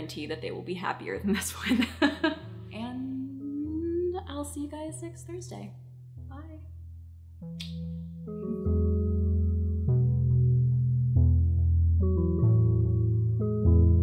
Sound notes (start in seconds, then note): 1.7 chuckles; 7.3 gentle, melodic music